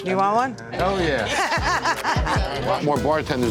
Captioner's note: laughing